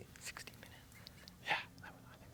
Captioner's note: whispers